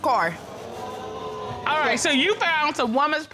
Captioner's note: audience exclaiming